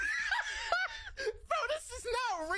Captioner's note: host laughing